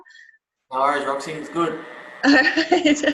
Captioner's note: laughs